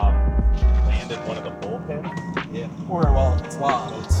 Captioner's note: team background chatter